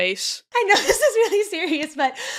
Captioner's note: laughing